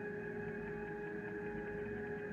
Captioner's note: none